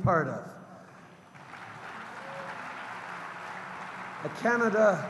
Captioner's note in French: Applaudissements